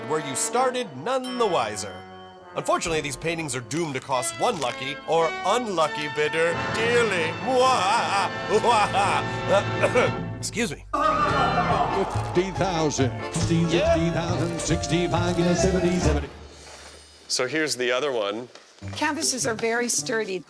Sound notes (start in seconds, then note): 7.6 fiendish laughter; 7.6 coughs